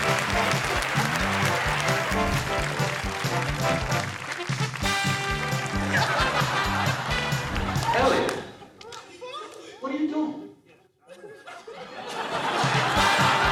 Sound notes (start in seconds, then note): 5.8 laughter; 11.0 laughter